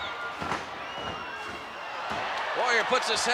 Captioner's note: applause